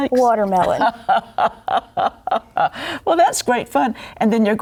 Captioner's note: laughs